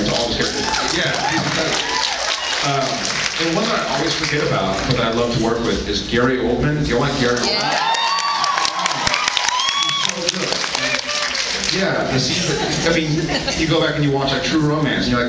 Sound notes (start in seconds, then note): 0.1 cheers and applause; 7.4 cheers